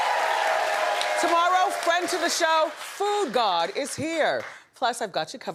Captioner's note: cheering